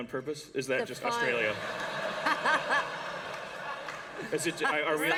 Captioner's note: laughter